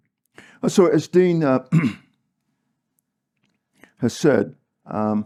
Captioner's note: cough